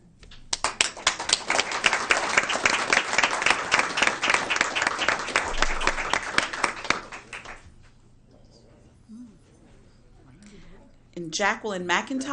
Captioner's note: applause